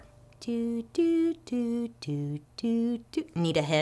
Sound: hums "Jeopardy" tune

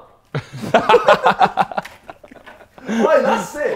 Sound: Sidemen laughing

